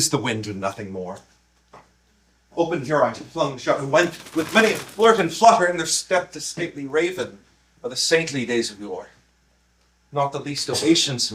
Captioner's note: flapping wings